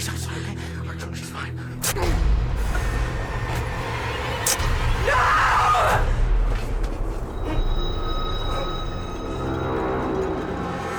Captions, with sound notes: She's outside. She's fine. (groans) (dramatic music) - No! (dramatic music)